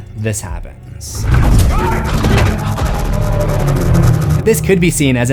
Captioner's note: banging sounds and screams